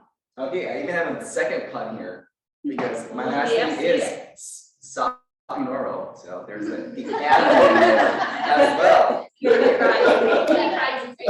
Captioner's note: laughter